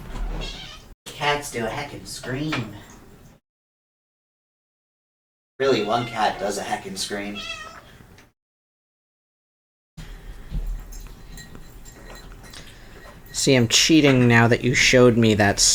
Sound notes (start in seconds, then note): none